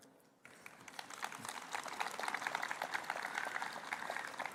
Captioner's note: applause